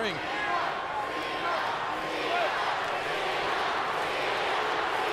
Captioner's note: crowd chanting "Cena"